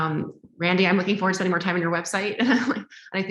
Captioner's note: laughs